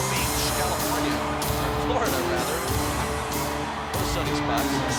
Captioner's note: laughs